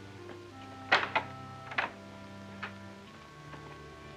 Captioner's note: door opens; soft music